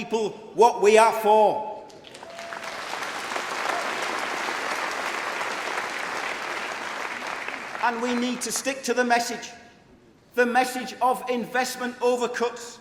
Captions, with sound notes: for and that means it is not enough to simply tell people what we are against, we need to tell misdemeanour what we are for! (Applause)